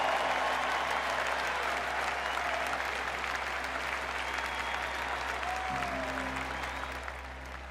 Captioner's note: crowd applauds; gentle music